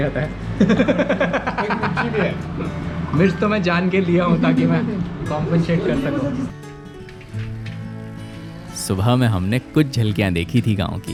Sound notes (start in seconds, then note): 0.6 giggles